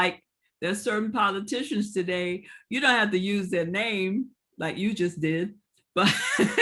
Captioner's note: laughing